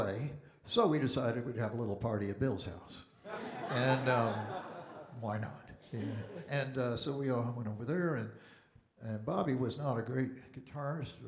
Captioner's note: audience Laughing